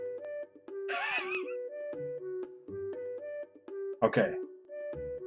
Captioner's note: laughs